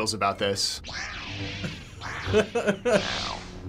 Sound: chuckles

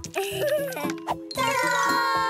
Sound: giggles

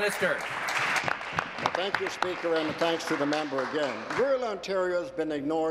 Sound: applause

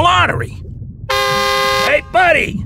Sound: car horn

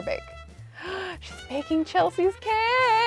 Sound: gasps

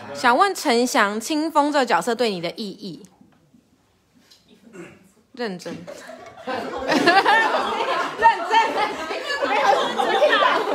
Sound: everyone laughs

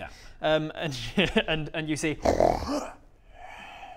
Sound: grunt

